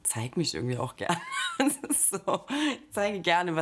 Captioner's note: laughs